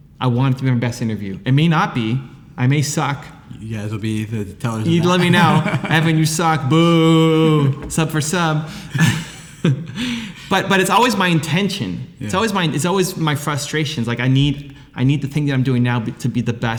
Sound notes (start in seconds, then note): 4.8 laughs; 8.9 laughter